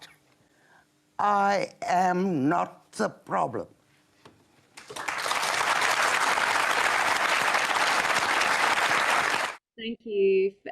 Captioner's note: applause. End of clip